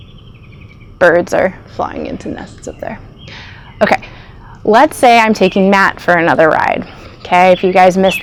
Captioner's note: bird's chirping